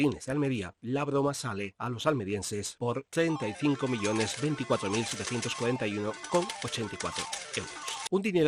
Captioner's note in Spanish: sonido máquina tragaperras